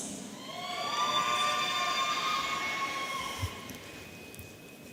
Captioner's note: audience cheering